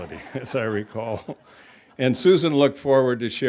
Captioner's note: chuckles